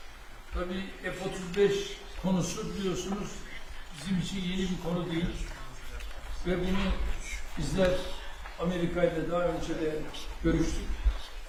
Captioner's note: speaking Turkish